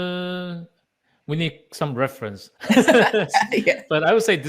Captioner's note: both laughing